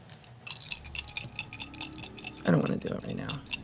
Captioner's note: dice rolls